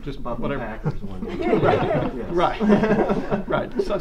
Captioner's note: group laughter